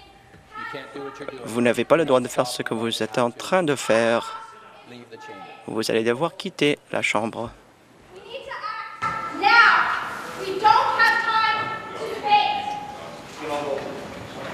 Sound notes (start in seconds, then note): 3.5 woman shouting